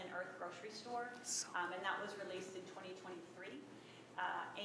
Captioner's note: whispering